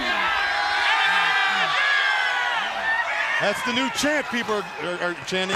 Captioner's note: crowd cheering